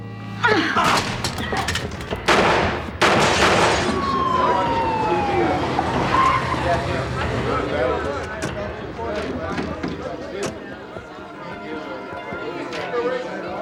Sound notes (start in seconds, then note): 0.4 grunting; 0.8 gun firing; 4.0 siren wailing; 7.0 indistinct chatter